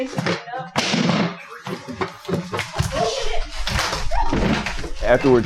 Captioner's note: sound of chair slamming to hardwood floor